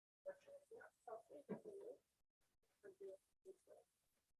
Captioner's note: faintly speaking